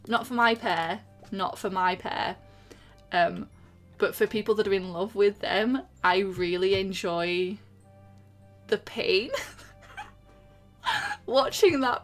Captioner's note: laughs